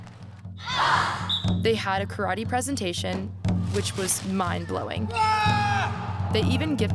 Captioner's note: haaaa